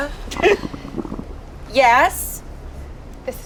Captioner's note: gags